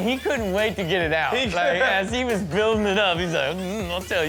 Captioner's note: laughs